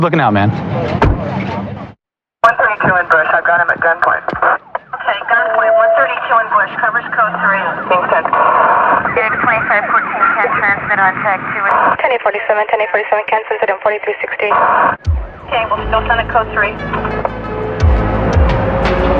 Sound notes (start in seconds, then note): 0.9 car doooor r clososinin; 8.4 radadioio statatitic